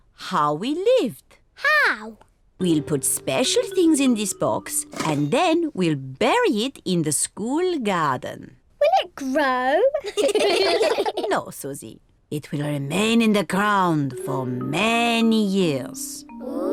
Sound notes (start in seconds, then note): 10.0 all laugh